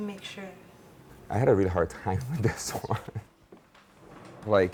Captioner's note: laughs